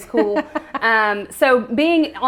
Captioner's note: laughs